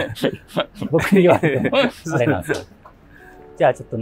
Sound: laughing

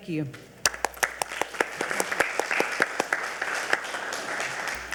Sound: audience applauding

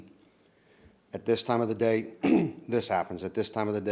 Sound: clears throat

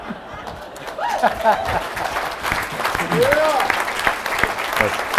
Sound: whoops and applause

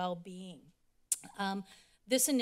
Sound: clicks tongue

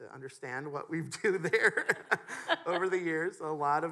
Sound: laughs

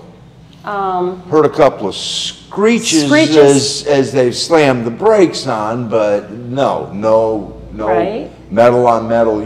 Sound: screeches

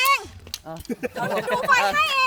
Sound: chuckles

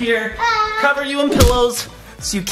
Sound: thuds

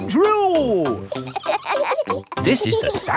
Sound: kids laughing

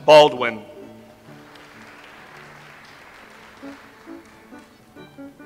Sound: audience applauds

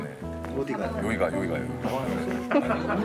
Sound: giggling

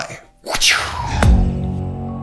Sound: vocalizes; enchanting music

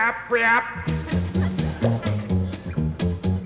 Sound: audience laughing

